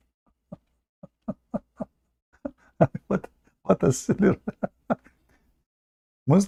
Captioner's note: Ketawa